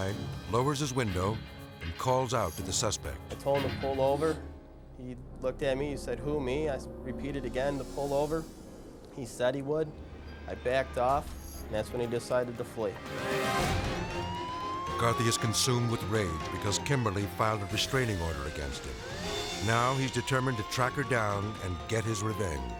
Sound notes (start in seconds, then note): 12.9 siren blaring